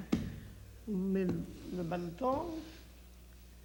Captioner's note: speaks French